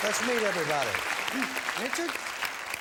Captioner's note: applause